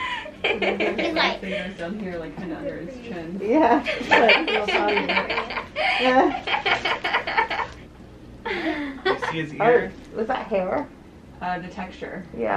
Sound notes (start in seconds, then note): 3.5 laughing